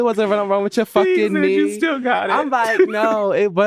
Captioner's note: laughing